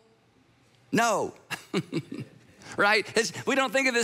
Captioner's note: chuckles